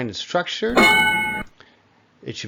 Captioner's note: ding